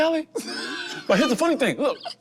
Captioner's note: group laughs